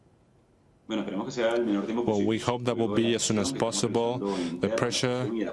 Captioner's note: speaking spanish